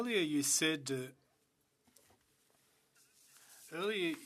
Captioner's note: speaking French